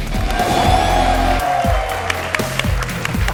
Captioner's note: cheering